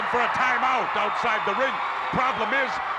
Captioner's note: audience cheers